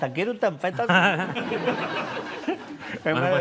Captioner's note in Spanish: Risas